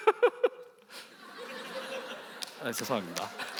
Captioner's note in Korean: 웃음